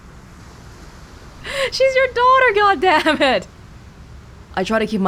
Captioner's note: chuckles